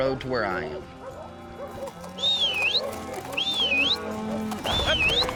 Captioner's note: whistling; hoofbeats, whistling